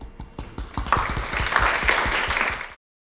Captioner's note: applause